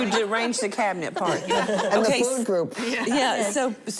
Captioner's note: laughter